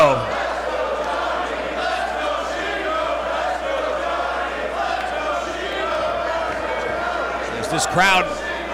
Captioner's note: applause